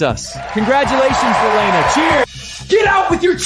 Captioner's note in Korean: 환호성